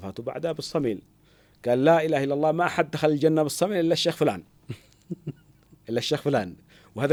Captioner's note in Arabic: ضحك